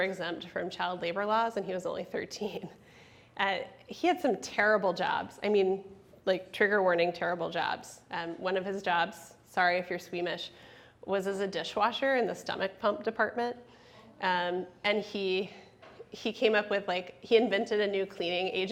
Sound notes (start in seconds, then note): none